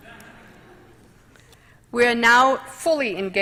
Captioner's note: laughter